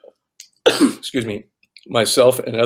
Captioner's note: coughs